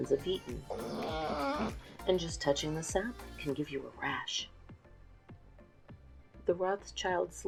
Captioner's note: dog whines